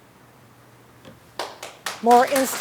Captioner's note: applause